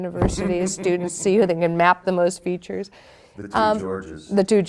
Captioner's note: laughing